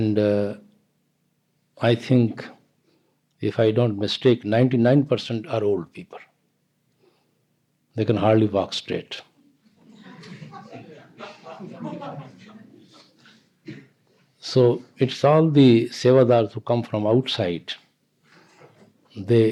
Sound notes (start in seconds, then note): 12.9 laughter